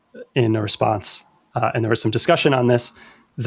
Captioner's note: uh